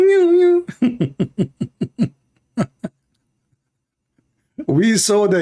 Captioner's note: Ketawa